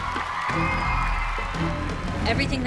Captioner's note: audience cheering